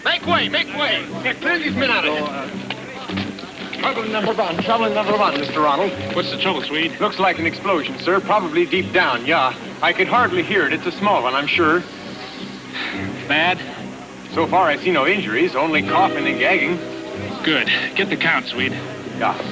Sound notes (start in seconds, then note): 12.7 sighs